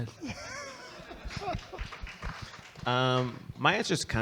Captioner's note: audience laughing and clapping